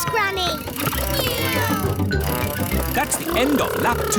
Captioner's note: kids imitating vehicle sounds